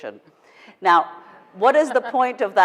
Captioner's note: laughing